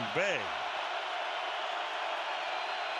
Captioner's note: crowd cheering